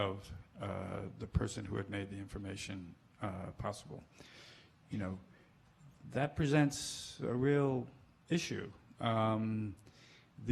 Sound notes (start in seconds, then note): none